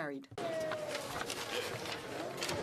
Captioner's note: speaking French